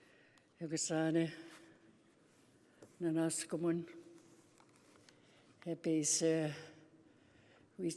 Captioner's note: speaking Indigenous language